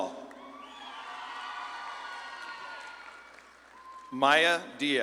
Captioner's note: audience claps and cheers